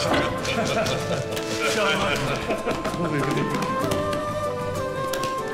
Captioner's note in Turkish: Gülme sesleri